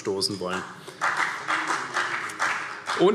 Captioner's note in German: Beifall CDU